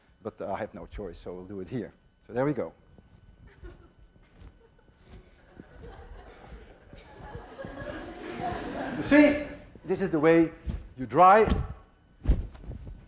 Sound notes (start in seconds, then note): 2.6 class laughs